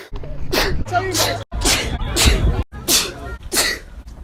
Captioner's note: sneezes in italian; sneezes in french